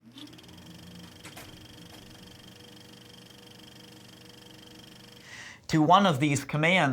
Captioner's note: film reel rolling